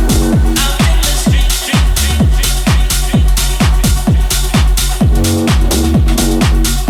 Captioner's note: echoes